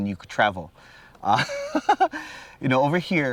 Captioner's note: laughs